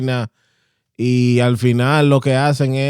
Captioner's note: speaking In Foreign Language